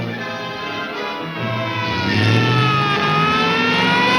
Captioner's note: siren blaring